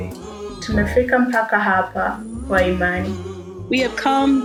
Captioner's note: In Swahili